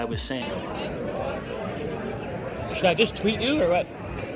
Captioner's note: crowd talking